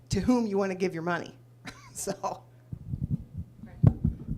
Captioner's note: laughs